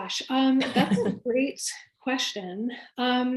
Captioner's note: laughs